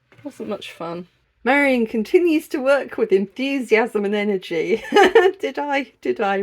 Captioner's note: laughing